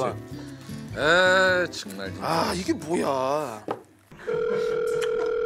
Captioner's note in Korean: 휴대전화 통화 연결음